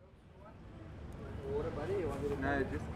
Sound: chatter

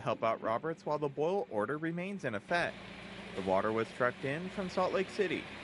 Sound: sound of forklift

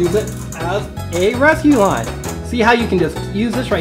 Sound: crank turns

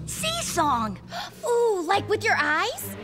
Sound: gasps

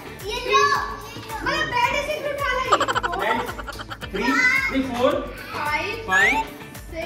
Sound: laughter

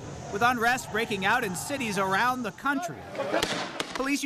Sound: gunshots

